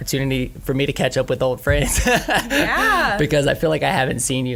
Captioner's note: laughs